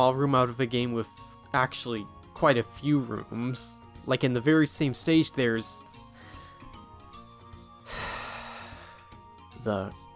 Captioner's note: sigh